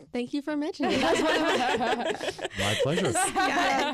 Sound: group laughs

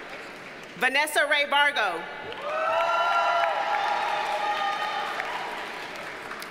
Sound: audience cheers and applauds

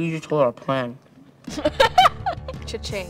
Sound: laughing

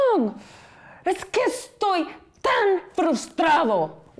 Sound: speaking in foreign language

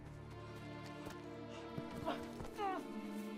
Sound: footsteps; gasping; yelling

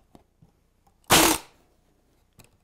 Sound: staple gun

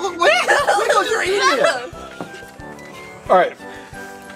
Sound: assistant laughing and calls out

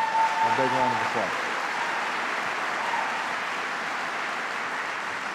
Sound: applause

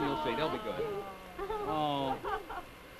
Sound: women ooh and ah

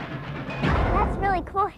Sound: short bang

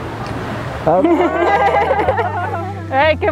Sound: laughing

